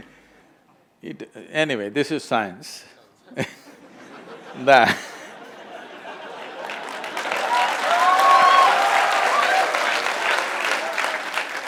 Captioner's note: laughter/Applause